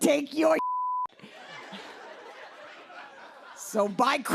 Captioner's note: laughter